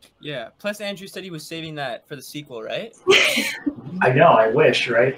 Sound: laughter

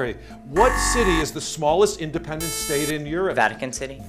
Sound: buzzer

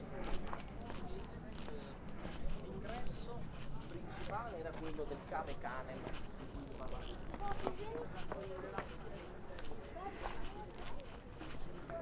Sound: background chatter

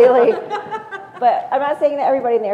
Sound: laugh

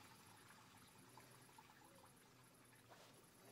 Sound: toilet flush

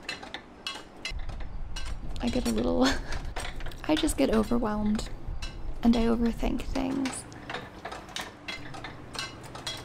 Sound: laughs

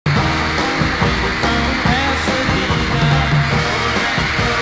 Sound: applause

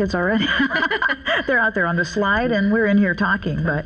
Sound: laugh

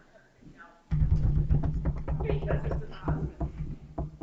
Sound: finger drumming

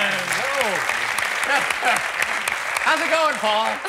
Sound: applause

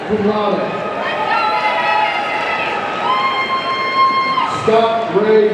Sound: audience cheering

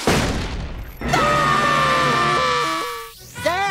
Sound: screaming

